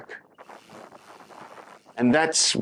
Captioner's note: wind blowing